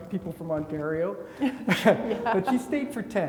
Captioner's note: chuckles